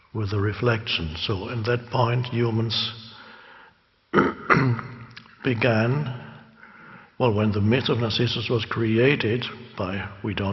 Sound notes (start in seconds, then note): 4.1 clearing throat